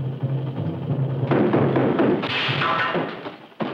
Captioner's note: loud knocking at door